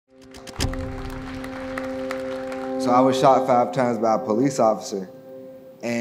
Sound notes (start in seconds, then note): 0.5 audience applause